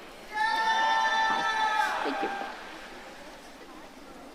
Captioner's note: audience cheering